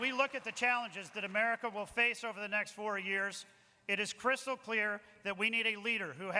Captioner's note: applause